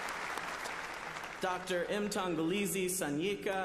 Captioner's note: applause